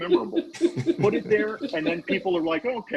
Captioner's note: laughing